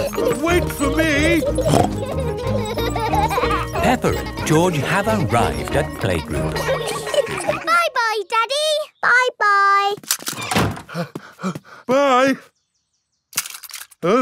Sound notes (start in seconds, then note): 1.3 snorts; 7.7 snorts; 11.5 panting